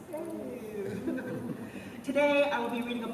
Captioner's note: chuckling